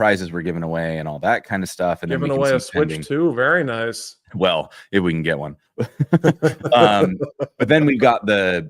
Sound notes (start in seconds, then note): 5.8 laughter